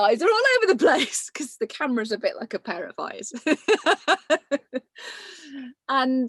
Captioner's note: laughs